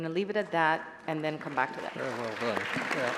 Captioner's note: applause